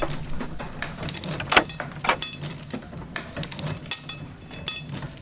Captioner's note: machinery clanking